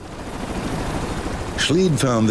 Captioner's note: helicopter blades whirling